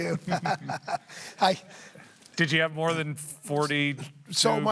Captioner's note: laughs